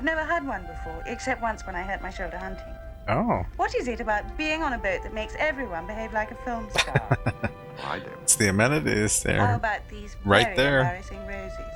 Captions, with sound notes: Oh. [Chuckling] It's the amenities. They're right there.